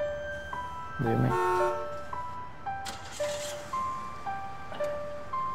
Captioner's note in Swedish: turnébuss som tutar